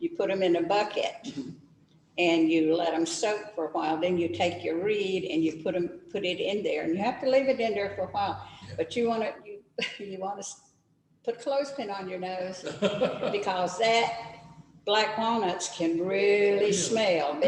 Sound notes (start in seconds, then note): 12.6 laughs